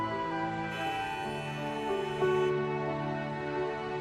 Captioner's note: car horns honking